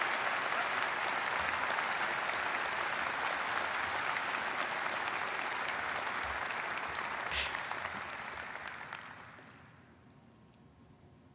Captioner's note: applause